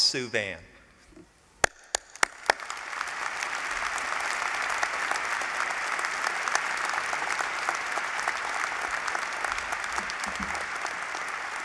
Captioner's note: applause